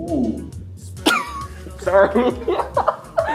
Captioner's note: giggles